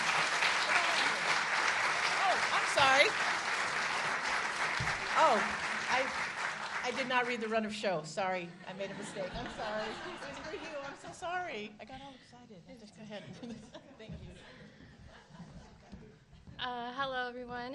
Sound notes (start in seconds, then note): 4.2 applause